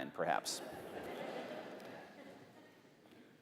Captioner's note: laughter